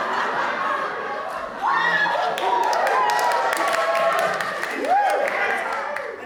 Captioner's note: audience laughs and cheers